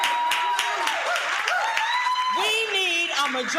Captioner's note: crowd cheering